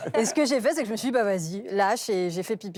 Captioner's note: laughter